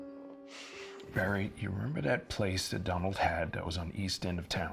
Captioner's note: sighs